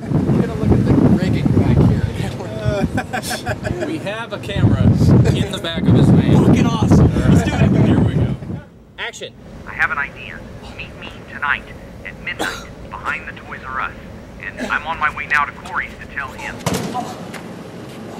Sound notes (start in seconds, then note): 2.1 laughing; 16.6 slams